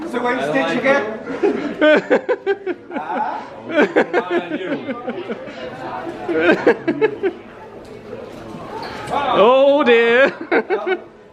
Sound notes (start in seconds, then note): 1.3 laughing